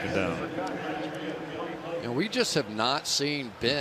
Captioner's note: pa announcement